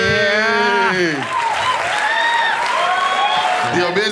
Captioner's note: crowd applauding